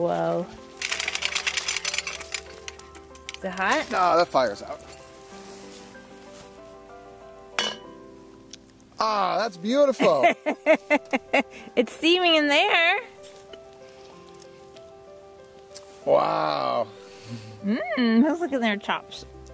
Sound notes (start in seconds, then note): 0.8 chain clatters; 5.1 iron lid clanks; 5.1 mellow electronic music; 10.0 chuckles